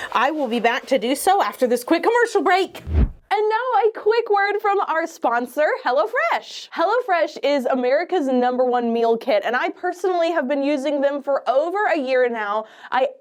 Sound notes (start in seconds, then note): 2.8 air whooshes